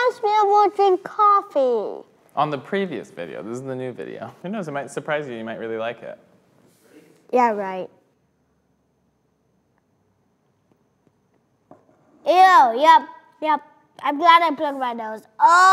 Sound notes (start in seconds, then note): none